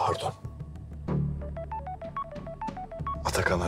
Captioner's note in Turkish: Telefon Çalıyor